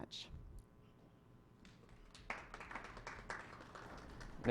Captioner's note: clapping